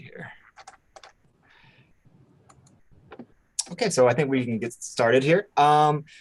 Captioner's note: keyboard clicking